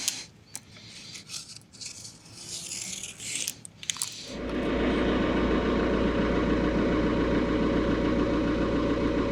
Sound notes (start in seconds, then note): 0.6 marker scraping; 4.2 engine humming